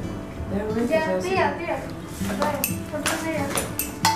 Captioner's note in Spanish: chattering